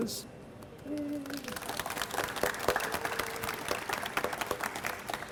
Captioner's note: audience applauds